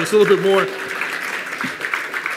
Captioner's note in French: Applaudissements